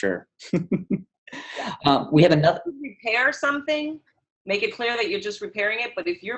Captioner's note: chuckle